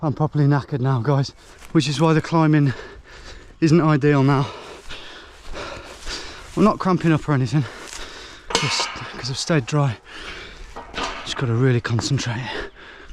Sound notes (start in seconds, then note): 4.2 panting; 10.7 gate clanking